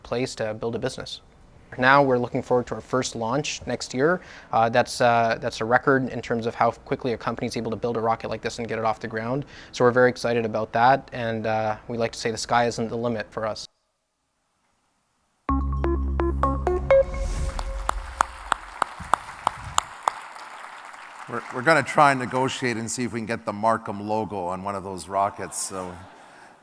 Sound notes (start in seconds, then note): 17.8 applause